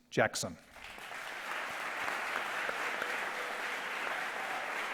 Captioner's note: audience applause